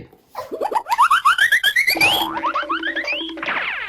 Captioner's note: objects clatter